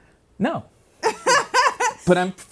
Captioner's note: laughing